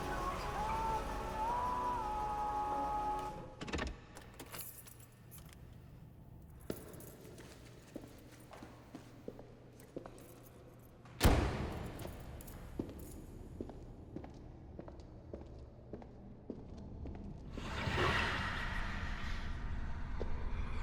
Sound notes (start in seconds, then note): 3.9 car door clicks; 4.2 keys jangling; 11.2 car door thuds; 13.7 footsteps thumping; 18.0 voice swishing